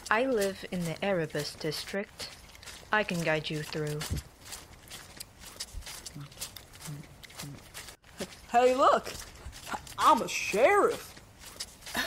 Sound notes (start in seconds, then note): 5.2 chewing